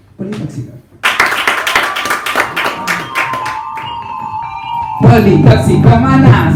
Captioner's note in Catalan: aplaudiments i música